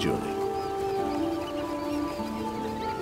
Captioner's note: birds chortling